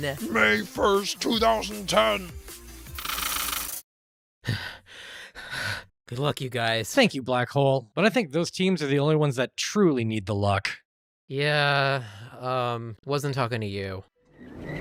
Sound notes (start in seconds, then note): 4.4 nervous breathing